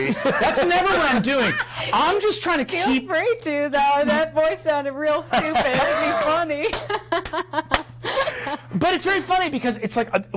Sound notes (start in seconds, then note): 0.0 others laughing; 5.3 all laughing